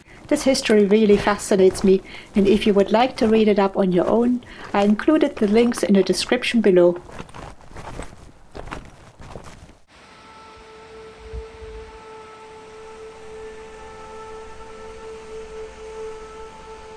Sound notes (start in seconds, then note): 7.2 sound of walking on rock